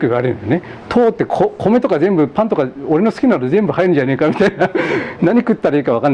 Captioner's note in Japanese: 笑い